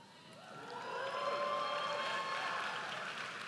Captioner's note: audience cheers